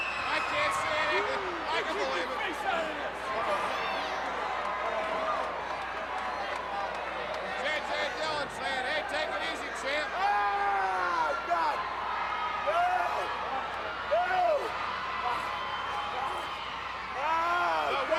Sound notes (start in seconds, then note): 4.0 crowd cheering; 10.3 Ric yelling; 15.5 crowd cheering; 17.3 Ric yelling